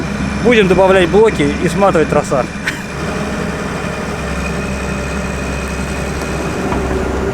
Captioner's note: laughs